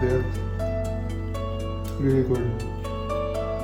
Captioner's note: sizzling